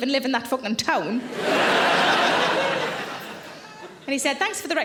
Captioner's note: audience laughing